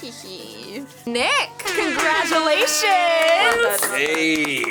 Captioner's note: air horns blaring